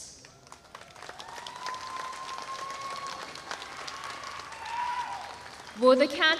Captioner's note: applause